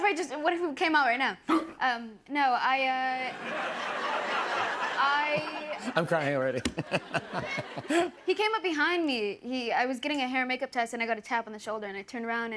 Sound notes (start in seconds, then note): 1.4 gasps; 3.2 laughter